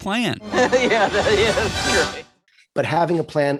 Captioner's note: maniacal laughter